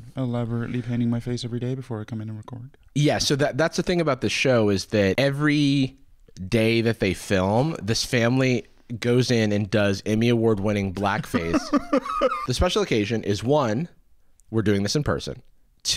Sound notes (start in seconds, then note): 11.1 laughs